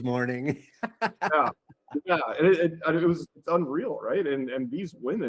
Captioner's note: laughs